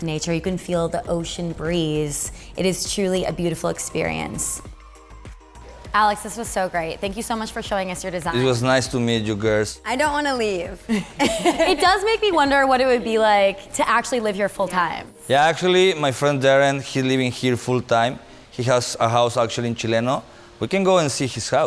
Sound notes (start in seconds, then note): 10.9 all laughing